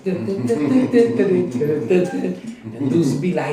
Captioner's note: imitates music